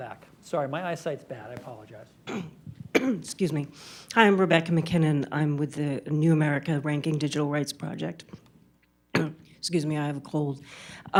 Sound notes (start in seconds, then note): 2.2 coughs; 9.1 coughs